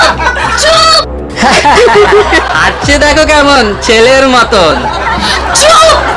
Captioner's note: mocking